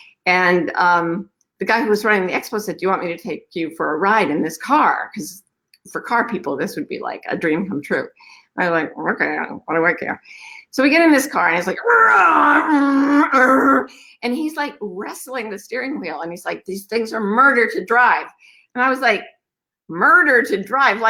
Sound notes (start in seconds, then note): 13.0 goofy sounds